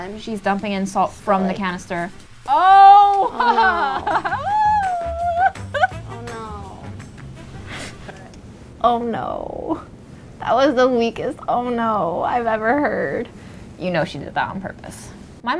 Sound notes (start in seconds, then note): 2.8 laughing; 3.0 laughs